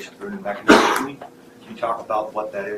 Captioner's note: audience member coughing